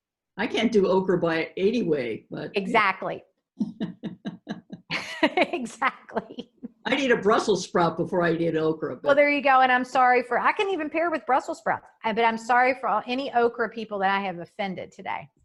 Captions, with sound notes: I can't do okra by any way, but - Exactly. [Laughs] Exactly. I'd eat a brussels sprout before I eat okra, but Well there you go, and I'm sorry for - I can even pair with brussels sprouts - but I'm sorry for any okra people that I have offended today.